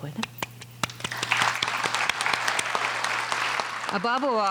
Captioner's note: audience applauding